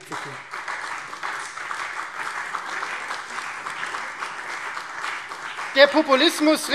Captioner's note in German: Beifall Freie Demokraten, CDU und BÜNDNIS 90/DIE GRÜNEN